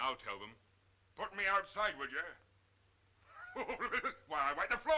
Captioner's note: laughing